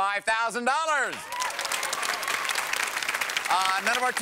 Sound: applause

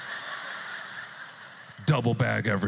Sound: audience laughter

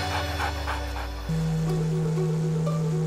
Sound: dog panting; outboard motor running

